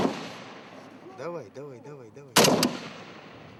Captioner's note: Russian spoken audio